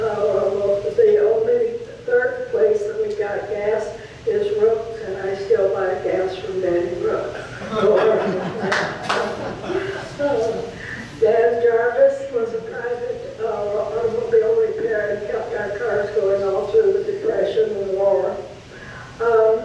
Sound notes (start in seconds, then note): 7.8 audience laughs and applauds over speech